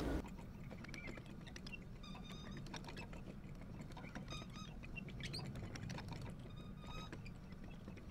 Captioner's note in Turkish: Çevirme sesi